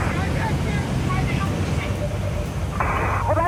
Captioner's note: static